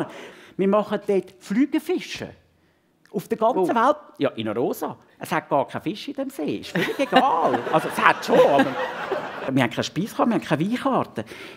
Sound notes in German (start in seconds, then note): 6.7 Gelächter